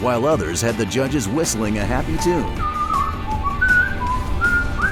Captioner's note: whistling